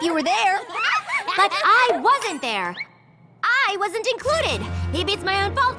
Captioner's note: yelling